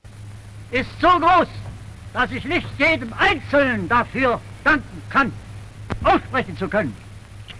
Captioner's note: German speech